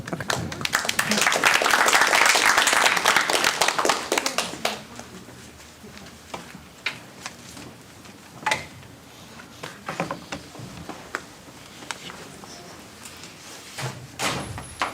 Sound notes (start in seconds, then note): 0.0 applause; 3.9 background chatter